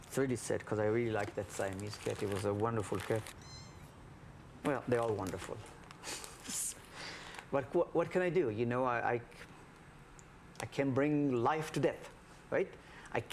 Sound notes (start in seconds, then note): 6.9 laughs